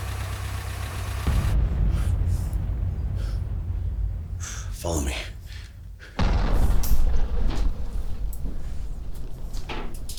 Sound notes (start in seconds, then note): 6.2 bombs thundering